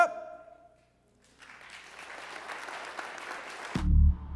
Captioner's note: applause